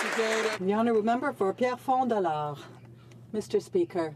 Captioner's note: some Applause